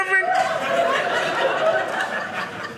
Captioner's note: audience laughing